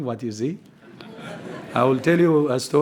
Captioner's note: laughter